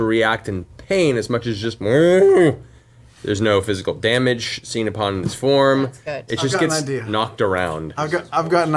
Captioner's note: distressed mooing